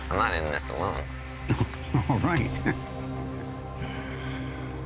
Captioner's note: chuckling